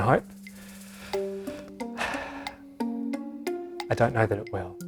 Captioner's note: sighs